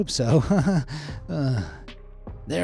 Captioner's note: laugh nervously